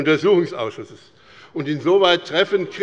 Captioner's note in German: Zurufe von der SPD